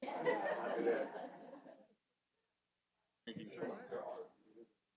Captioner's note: audience laughing lightly